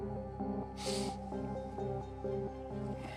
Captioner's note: sniffles